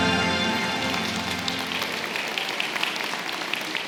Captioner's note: applause